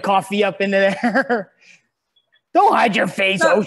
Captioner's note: laughs